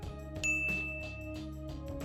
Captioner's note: bell dings